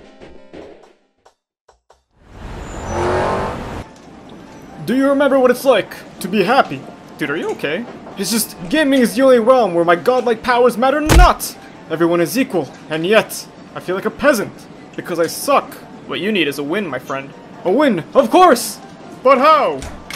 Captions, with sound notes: [Car passing by] Do you remember what it's like to be happy? Dude, are you okay? It's just, gaming is the only realm where my god-like powers matter not! Everyone is equal, and yet, I feel like a peasant! Because I suck. What you need is a win my friend. A win... Of course! But how?